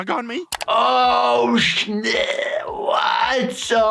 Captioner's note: gasping